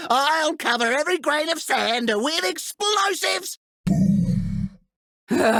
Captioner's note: sighs